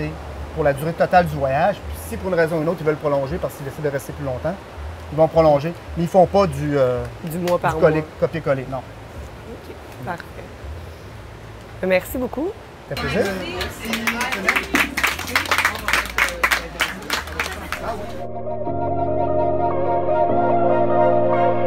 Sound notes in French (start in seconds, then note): 16.9 applaudissements